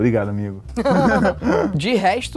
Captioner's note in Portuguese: risadas